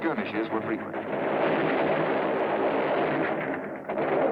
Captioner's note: machine gun firing